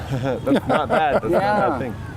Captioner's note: laughing